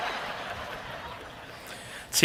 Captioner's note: cheering